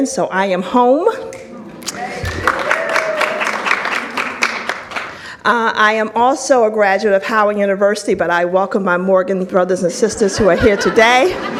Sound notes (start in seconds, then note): 1.8 audience applauds